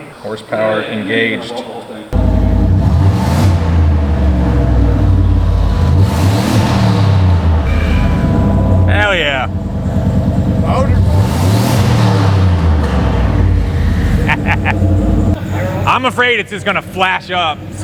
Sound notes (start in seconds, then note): 3.0 engine revving loudly; 10.6 speaking away from mic; 11.9 engine revving loudly; 14.0 laughs loudly